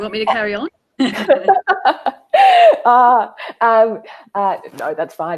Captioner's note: laughing